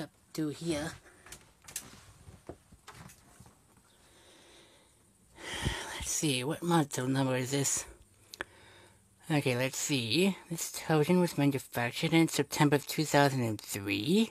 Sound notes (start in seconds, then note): 5.3 exhales